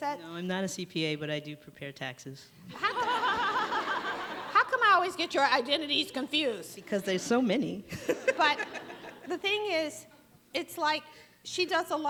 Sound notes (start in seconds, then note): 2.7 audience laughs